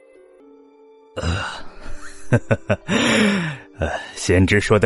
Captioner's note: forced chuckle